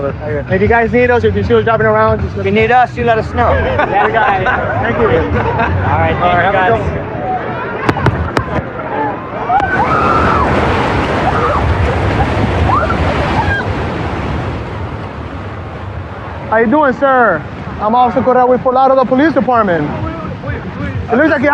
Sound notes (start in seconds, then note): 9.5 excititeded scrcreaeam